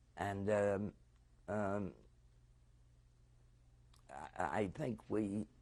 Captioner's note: pauses for 3 seconds